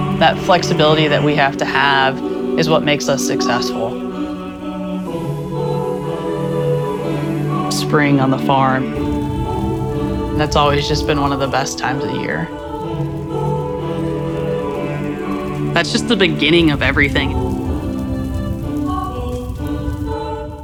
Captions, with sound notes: That flexibility that we have to have is what makes us successful. - (Water hose running) Spring on the farm, that's always just been one of the best times of the year. (uplifting music) That's just the beginning of everything.